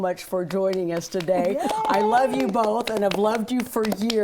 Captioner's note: cheering